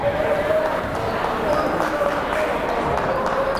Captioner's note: chattering